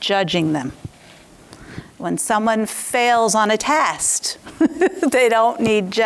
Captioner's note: laughs